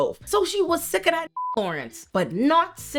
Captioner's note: beep